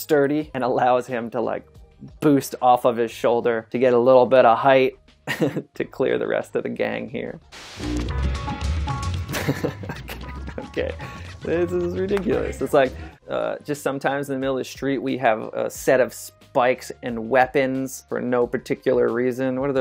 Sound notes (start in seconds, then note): 7.5 static noise; 8.4 upbeat music